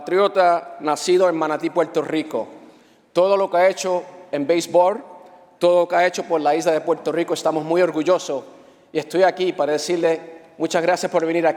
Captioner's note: speaking spanish